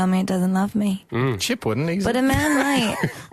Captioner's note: laughs